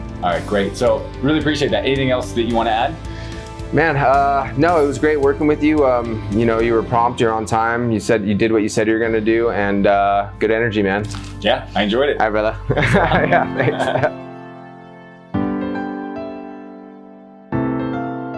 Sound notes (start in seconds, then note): 12.6 both laughing; 14.7 calm piano music